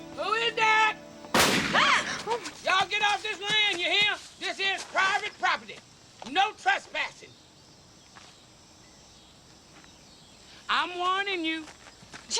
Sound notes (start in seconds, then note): 0.0 birds chirping; 1.3 gun firing; 1.4 women gasping; 6.9 birds chirping; 9.4 insects chittering